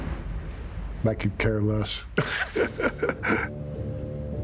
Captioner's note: laughing